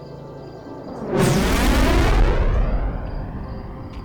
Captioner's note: engines roaring